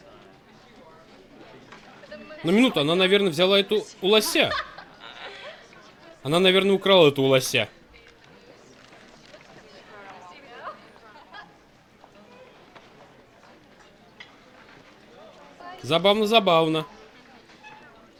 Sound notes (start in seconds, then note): 4.0 laughs; 8.0 indistinct chatter; 18.0 indistinct chatter